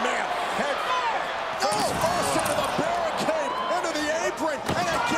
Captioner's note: applause